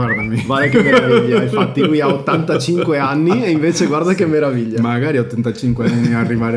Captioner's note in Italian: risate